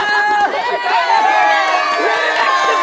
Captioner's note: all cheer; cheers